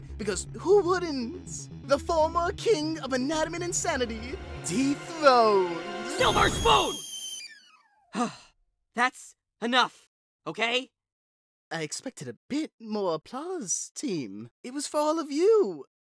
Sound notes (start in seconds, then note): 8.1 sigh